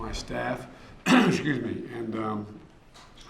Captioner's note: clears throat